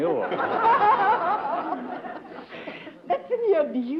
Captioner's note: laughter